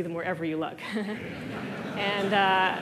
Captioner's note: laughter